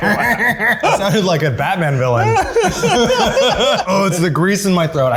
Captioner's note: evil laugh; laughing